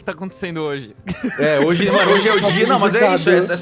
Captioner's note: everyone laughs